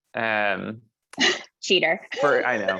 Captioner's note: laugh